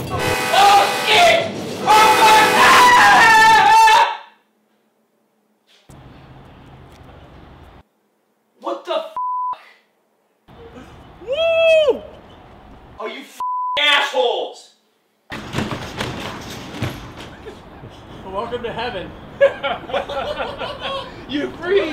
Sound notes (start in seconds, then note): 0.1 train horn approaching; 4.1 sounds stop abruptly; 19.4 laughter